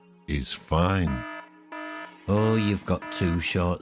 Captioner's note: alarm siren ringing